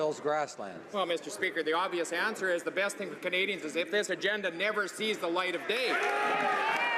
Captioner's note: some Applause